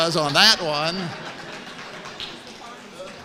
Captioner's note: laughs